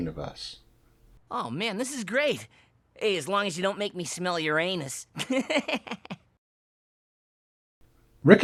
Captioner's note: laughs